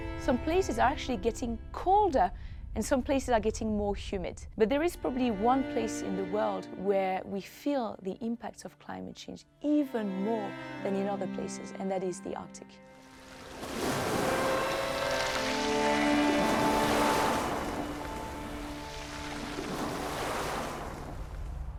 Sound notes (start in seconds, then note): 13.2 waves crashing